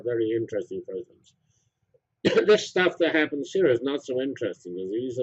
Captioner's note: cough